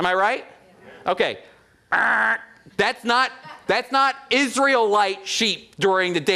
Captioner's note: makes buzzer sound